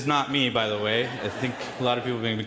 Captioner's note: audience laughing in the background